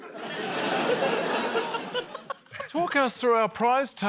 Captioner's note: laughter